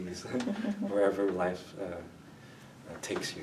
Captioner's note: chuckles